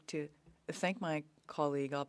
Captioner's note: speaking French